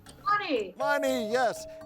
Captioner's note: tone chimes